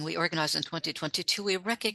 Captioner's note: speaking French